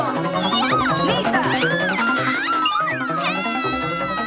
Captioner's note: screams